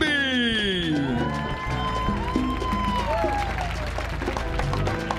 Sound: audience cheering

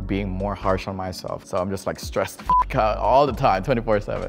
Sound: beep

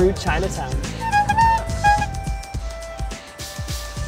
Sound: horn blowing

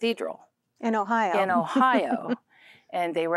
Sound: giggling

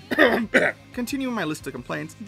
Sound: coughs

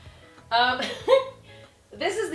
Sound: chuckles

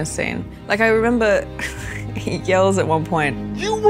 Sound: chuckles

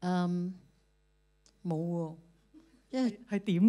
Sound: Cantonese; Cantonese

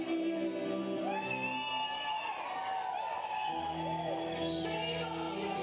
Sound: audience cheering

